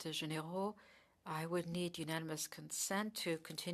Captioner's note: speaking French